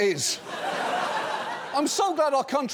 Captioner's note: audience laughing